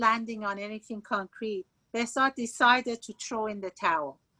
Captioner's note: speaking Farsi